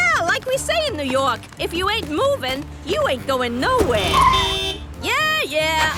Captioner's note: honking